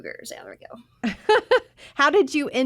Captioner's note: laughs